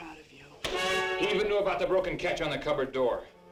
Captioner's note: hand smacks; dramatic orchestral music